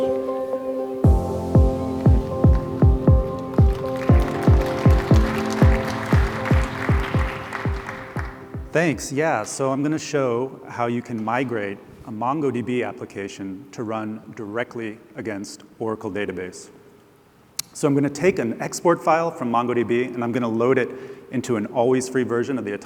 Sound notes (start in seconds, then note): 2.4 applause